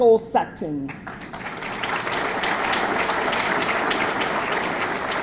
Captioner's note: audience clapping